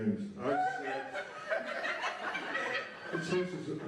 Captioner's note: laughter